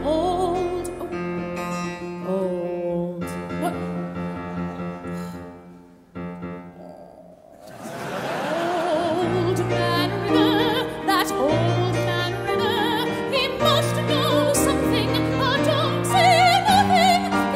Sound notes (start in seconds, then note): 7.6 audience laughing